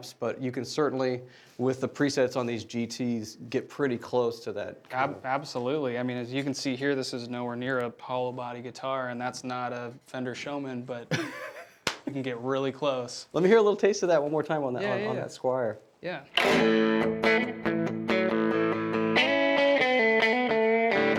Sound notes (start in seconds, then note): 11.1 laughing; 18.4 upbeat music